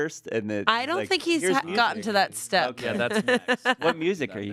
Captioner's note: laughs